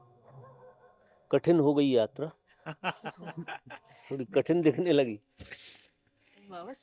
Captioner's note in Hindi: हंसी